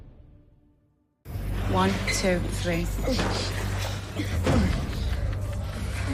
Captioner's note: groaning